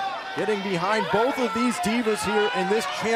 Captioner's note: crowd chatter